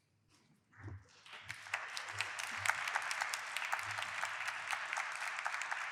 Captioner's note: applause